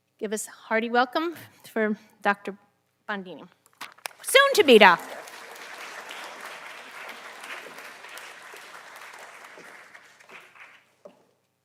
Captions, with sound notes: Give us hearty welcome for Dr. Bondini. Soon to be doctor. (audience applauding)